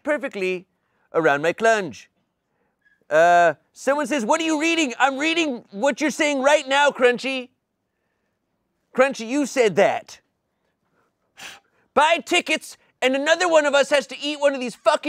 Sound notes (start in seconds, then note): 11.3 Dumpster Wizard blowing